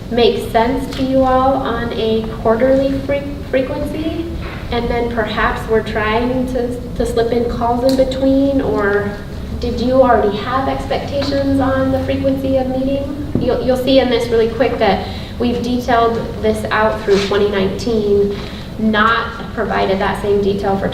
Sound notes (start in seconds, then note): none